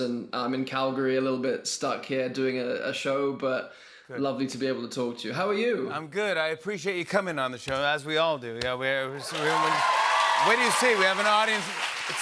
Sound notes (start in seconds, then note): 9.2 cheers and applause